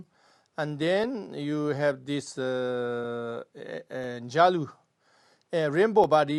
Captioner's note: tibetan